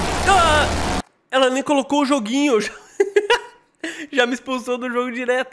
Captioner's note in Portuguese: risos